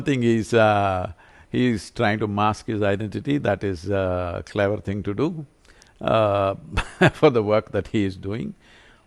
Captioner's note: laughs